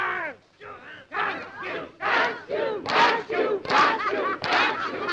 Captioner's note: group shouting